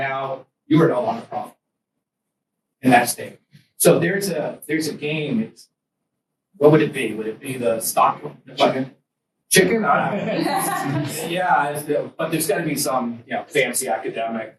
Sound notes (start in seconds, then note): 9.9 students laugh